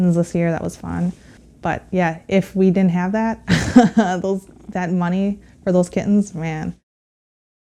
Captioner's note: laughs